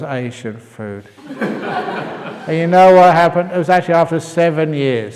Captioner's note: laughter